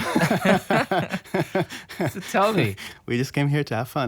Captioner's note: laughs